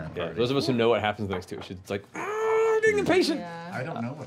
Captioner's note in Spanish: gritito